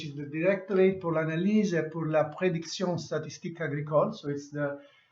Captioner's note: speaks in foreign language